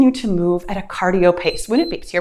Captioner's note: timer beeps